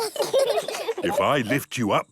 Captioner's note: children laugh